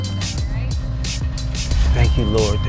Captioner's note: engine turns over